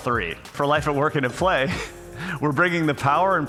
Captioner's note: laughs